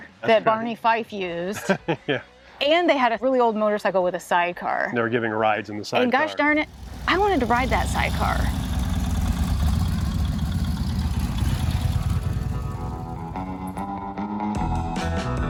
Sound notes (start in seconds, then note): 1.5 laughing; 8.6 engine revving; 12.4 rock music